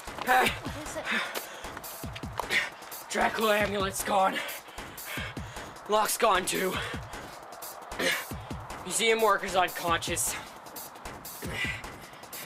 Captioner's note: deep breathing